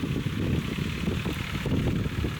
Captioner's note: engine revving